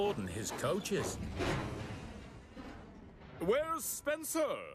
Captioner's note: thud!